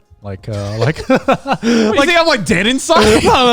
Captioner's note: group laughs